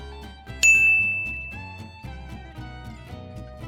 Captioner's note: playful orchestra music; bell rings